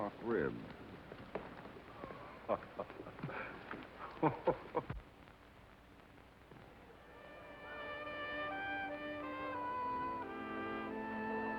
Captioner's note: chuckling